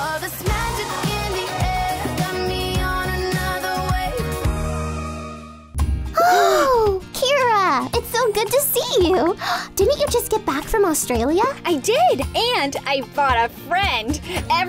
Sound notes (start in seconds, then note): 6.3 gasps